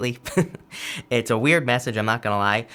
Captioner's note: chuckling